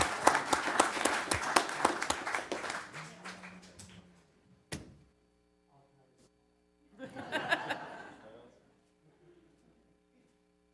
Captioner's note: applause